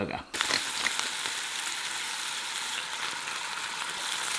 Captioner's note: grinder crackling; patty sizzling